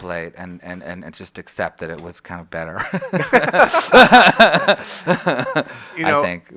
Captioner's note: laughs